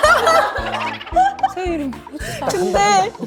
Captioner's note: laughs